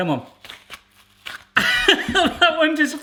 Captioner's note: laughs